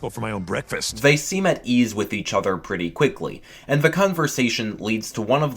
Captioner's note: voiceover